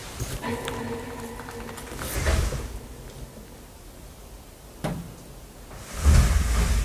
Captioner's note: suddenly the door closes by itself